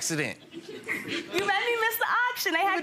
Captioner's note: crowd laughs